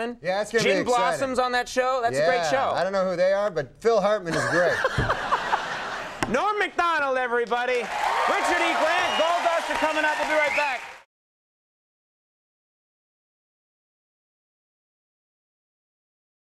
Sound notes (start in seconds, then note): 4.3 Conan laughs